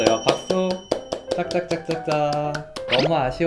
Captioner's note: clapping noise